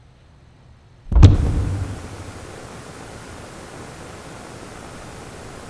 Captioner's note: static